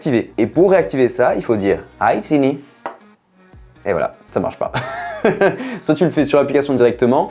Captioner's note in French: rires